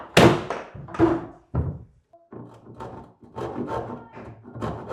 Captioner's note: cabinet thudding